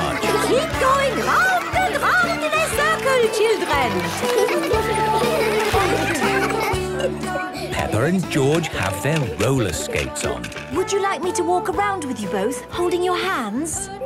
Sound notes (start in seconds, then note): 3.8 laughter; 6.8 giggling